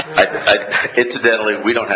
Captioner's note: laughing